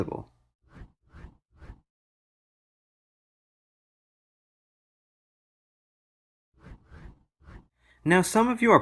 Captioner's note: transition swooshes